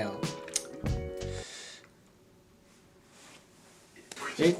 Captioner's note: silence